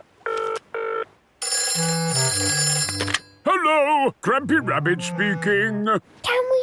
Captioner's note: phone ringing